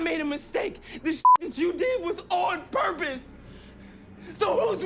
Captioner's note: beep